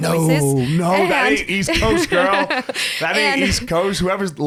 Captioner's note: laughs